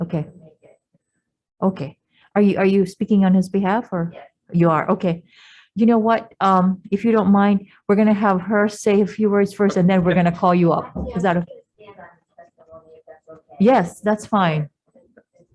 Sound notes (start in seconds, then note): 11.0 mumbling